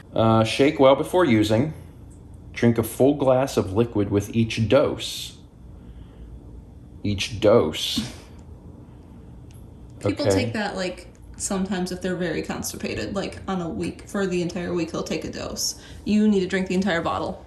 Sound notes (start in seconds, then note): 7.9 chuckle